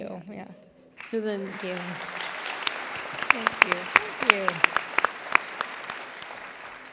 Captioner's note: applause